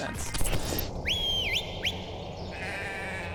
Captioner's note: person whistling; goat bleating